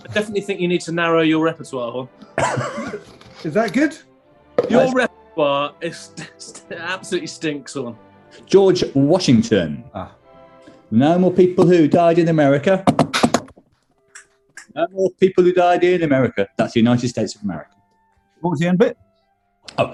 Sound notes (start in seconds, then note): 2.3 laughing; 12.8 taps table rhythmically; 14.0 claps in time